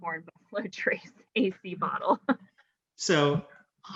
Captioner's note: chuckles